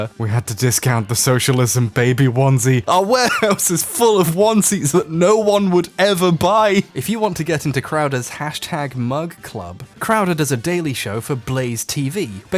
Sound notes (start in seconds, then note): 0.1 cracking up; 2.8 laughing